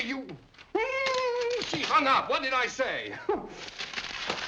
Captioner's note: whimpers